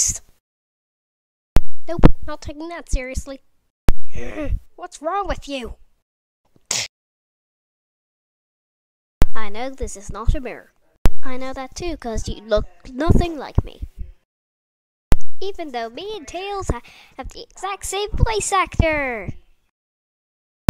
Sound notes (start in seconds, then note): 6.6 slap